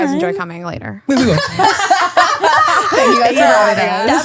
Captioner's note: laughing